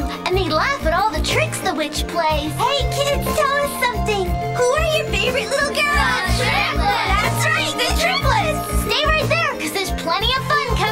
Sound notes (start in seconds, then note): 6.5 voiceover